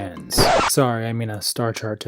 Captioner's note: record Scratch